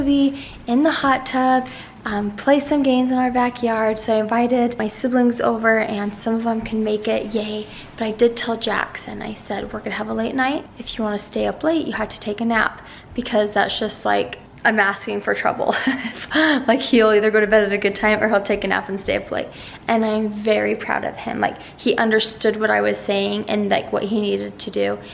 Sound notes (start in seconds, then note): 15.7 laughs